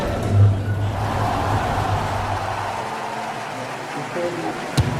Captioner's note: cheering